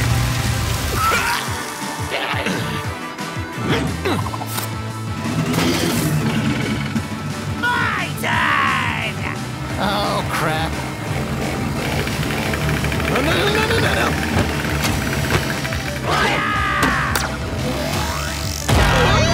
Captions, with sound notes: MY TURN!!! Oh, crap. NO NO-NONONONONO! FIRE!!! *spikeball charges*